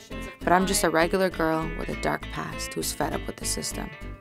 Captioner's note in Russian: Голос за кадром